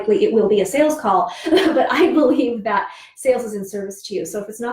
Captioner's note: laughs